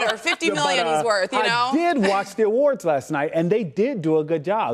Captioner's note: laughter